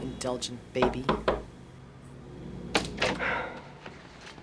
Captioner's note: knock on door